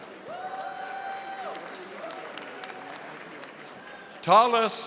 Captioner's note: audience applauding